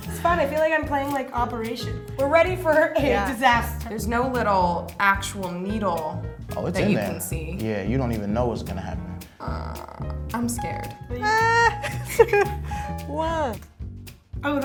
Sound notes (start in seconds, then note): 11.2 shouts; 11.2 laughs